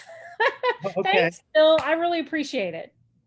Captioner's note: laughs